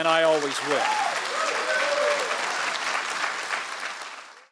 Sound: audience applauding

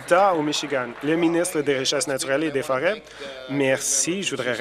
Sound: applause

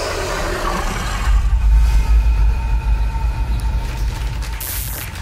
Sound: city noise; crowd applause

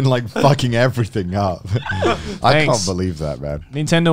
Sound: laughing

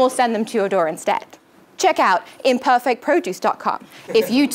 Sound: laugh

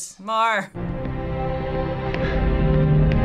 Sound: orchestral music; person gasps

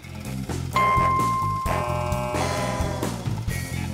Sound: dings

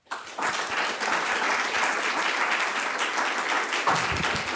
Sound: audience applauding

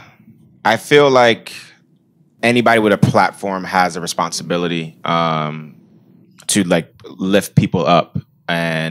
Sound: sigh

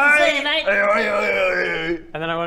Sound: enthusiastic noises??

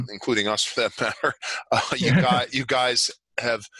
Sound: chuckles

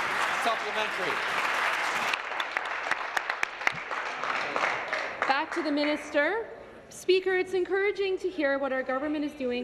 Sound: applause

